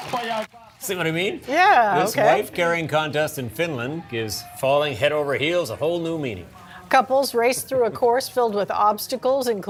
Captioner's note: cheers and applause